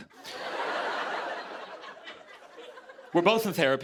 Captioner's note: laughter